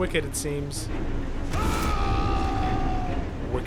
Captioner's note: a braggart’s roar